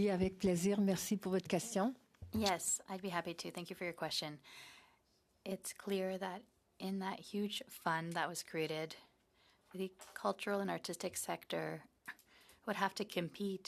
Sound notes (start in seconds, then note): 2.6 speaking in French